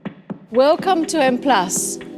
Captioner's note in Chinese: 英语